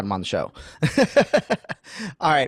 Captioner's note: laughing